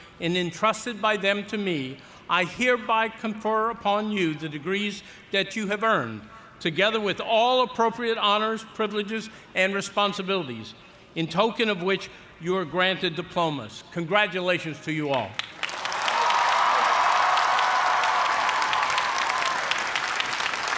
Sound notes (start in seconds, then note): 15.5 cheers and applause